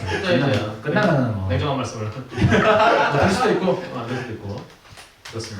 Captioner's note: laughs